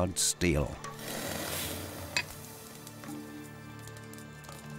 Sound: tools sizzling

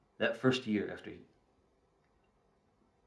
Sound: none

